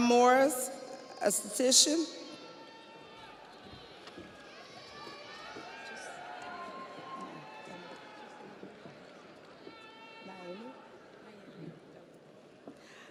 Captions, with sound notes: Shamiah Morris, Esthetician. (audience applauds) (audience cheers) - Naomi? - Naelli.